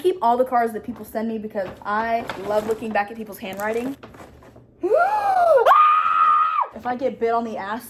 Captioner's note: sees an ant and screams